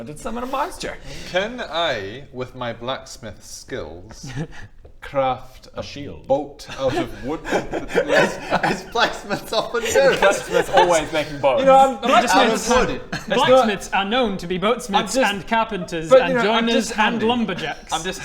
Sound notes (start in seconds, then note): 4.2 doubtful laugh